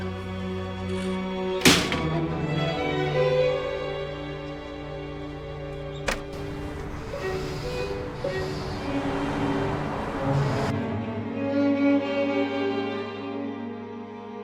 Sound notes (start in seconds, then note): 1.6 door slams shut; 4.1 uptempo mellow music continues